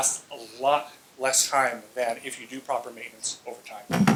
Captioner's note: bumbs microphone